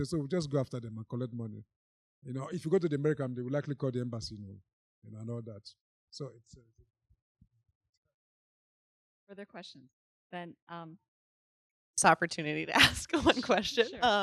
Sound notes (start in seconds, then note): 6.0 voice becomes faint; 12.8 chuckling